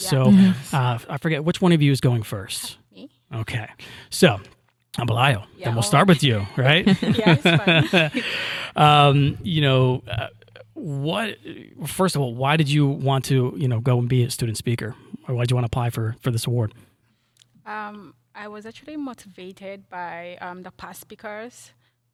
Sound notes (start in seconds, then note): 6.6 laughing